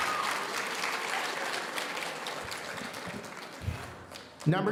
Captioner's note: audience applauding